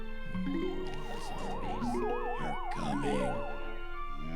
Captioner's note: voiceover